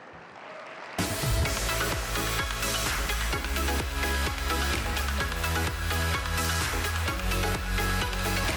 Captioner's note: applause and music